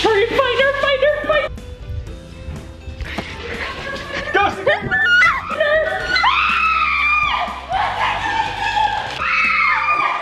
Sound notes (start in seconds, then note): 6.0 screaming